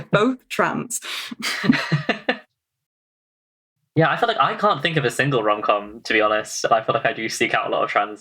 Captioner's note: laughs